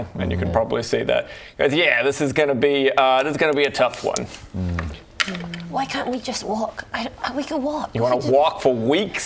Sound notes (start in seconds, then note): 5.2 mystery dice roll